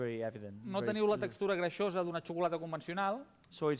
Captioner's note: non-english speech